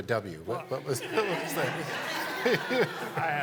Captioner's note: laughter